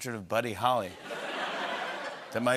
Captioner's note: laughter